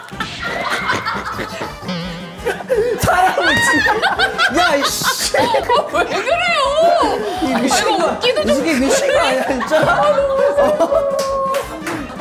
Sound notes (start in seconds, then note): 1.9 in laughter; 7.4 teary